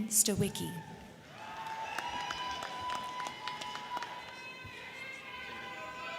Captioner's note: crowd cheering; crowd clapping